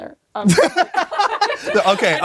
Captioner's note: both laugh heartily